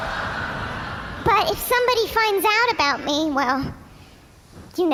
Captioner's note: audience laughs